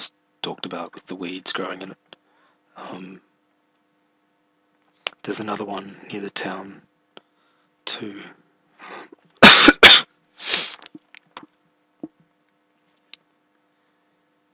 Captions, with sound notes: where I just talked about with the weeds growning in it Um There's another one near the town ...too [coughing] [sniffing]